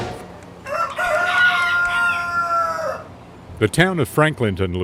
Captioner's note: roosters crowing